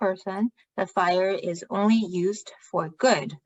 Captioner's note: speaking chinese